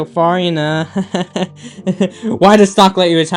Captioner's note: nervous laughing